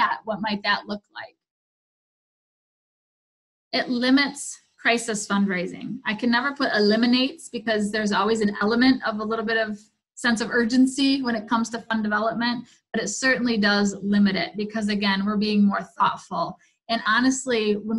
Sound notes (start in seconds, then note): none